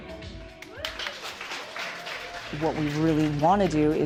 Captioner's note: upbeat music; all applauding